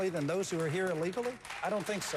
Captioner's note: applause